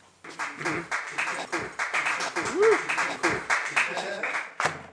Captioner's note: applause